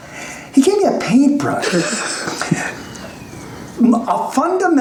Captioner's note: snickers